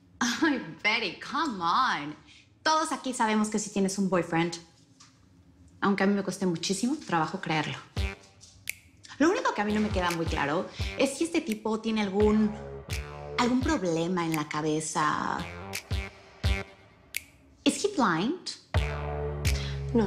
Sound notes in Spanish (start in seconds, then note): none